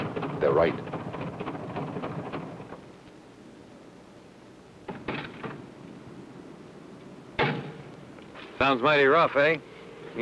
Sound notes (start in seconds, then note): 0.7 engine knocking; 2.9 engine stops; 4.9 door opens; 7.4 door closes